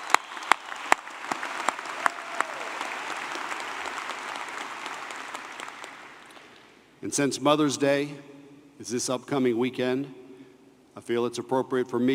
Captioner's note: applause